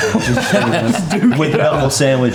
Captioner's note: group laughing